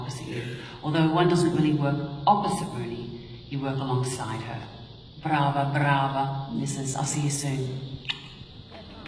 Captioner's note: blows kiss